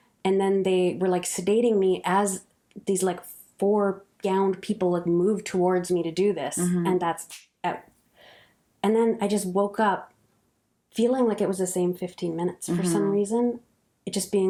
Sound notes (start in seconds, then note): 7.5 snap fingers